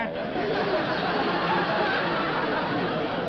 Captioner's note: chuckling